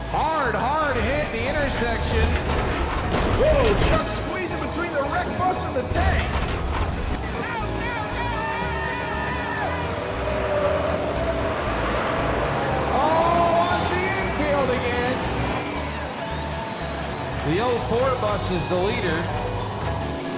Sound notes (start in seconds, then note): 0.0 crowd groaning; 10.4 tires squealing; 15.4 crowd cheering